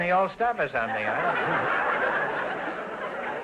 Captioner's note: audience laughter